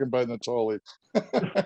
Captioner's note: laughter